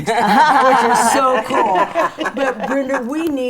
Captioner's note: all laughing